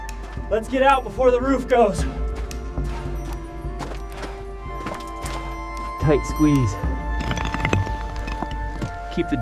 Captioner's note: footsteps thud